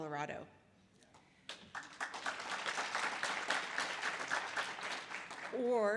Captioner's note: audience applause